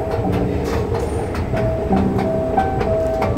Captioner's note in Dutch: roltrap geluiden